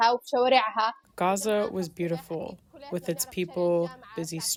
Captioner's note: through translator